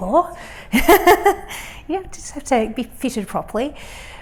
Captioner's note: laughs